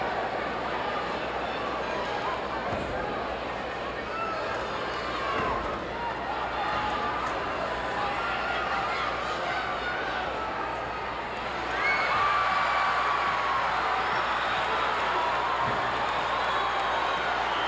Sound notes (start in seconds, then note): 2.6 floor banging; 12.3 audience cheering and clapping